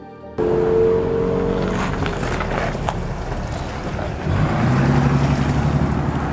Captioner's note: truck engine roaring; rocks crackling